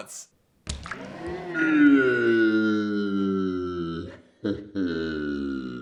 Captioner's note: yells in slow motion